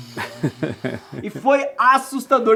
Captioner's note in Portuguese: dando risada